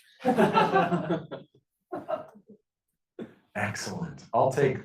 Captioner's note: class laughing